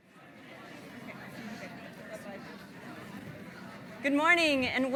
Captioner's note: audience chattering